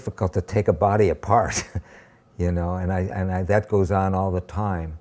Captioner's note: laughs